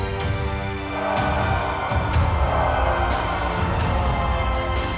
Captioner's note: regal music continues; people screaming